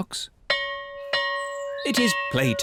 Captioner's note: bell rings